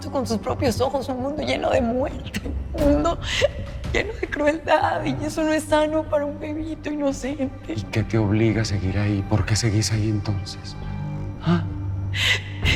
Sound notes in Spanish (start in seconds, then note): none